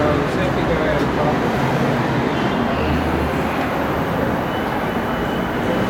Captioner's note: traffic noise, light construction noise, indistinct conversations